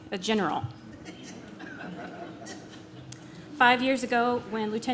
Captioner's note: audience laughs